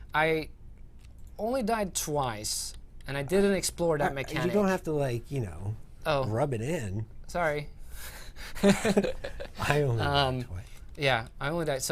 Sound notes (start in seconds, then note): 8.5 laughter